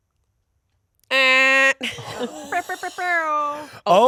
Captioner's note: imitating air horn honking; imitates air horn whirring